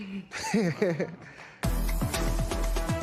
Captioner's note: laughs